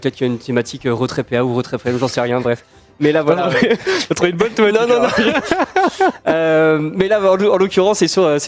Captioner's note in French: rires